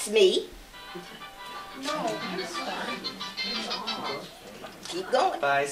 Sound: cellphone rings again

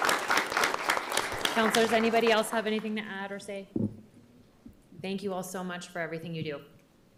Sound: applause

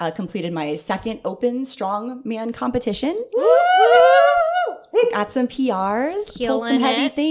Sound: "woooowooo" in celebration

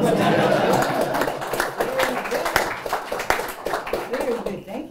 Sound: applause

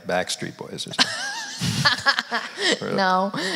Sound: laughs

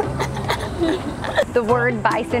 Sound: girl giggling

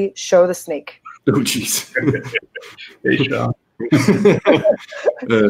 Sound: speakers laughing

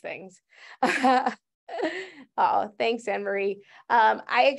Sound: chuckles

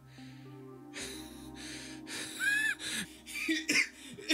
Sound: wheezing and coughing

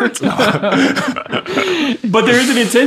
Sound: all laughing

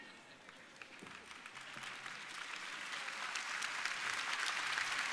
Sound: audience applauding

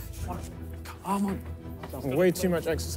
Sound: breathing hard

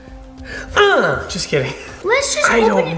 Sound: dad grunting

